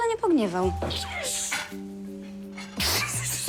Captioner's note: groans